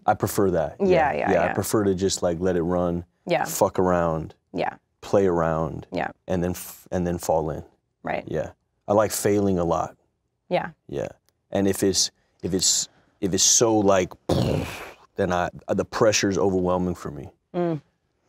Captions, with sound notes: - I prefer that, yeah, I prefer to just let it run, fuck around, play around, and then fall in, yeah. I like failing a lot, and if it's so like, (exhales) then the pressure is overwhelming for me.